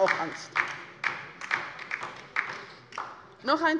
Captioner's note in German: Beifall bei der LINKEN